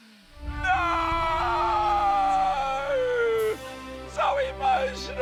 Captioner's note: shouts